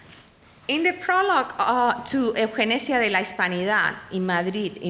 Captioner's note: speaking in foreign language